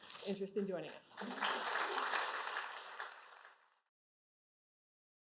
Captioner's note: applause